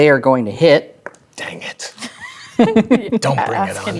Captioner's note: players laughing